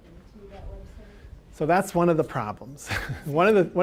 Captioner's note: chuckling